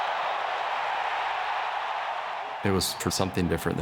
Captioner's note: crowd cheering